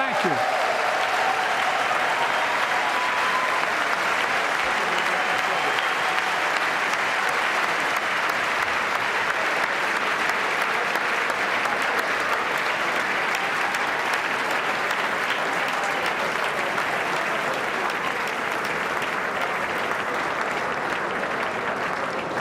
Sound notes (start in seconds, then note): 4.8 applause; 8.1 cheers and applause